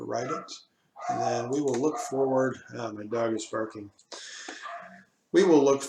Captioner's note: my dog is barking